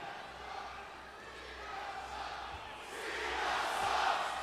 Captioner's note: crowd chanting